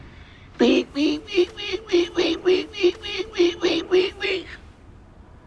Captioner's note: pecking noises